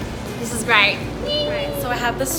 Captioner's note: squeals